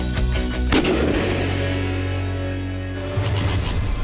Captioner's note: gunshot